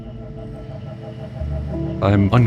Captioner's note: motor spinning